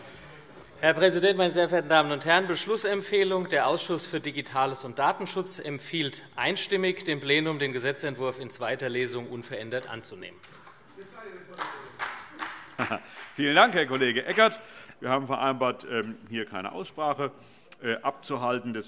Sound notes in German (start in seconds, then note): 11.4 Vereinzelter Beifall BÜNDNIS 90/DIE GRÜNEN